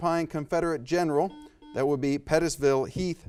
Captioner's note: buzzer buzzes